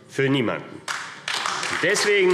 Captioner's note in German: Beifall AfD